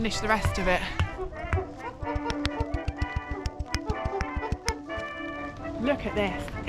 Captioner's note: chimp noises